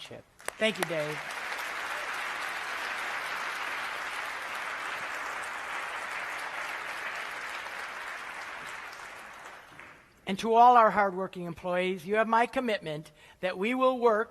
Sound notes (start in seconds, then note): 0.3 applause